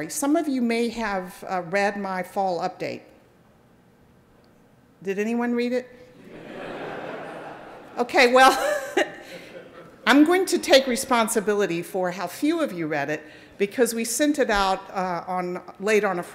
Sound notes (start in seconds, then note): 6.2 audience laughing; 8.8 laughs